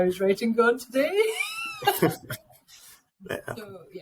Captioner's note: laughing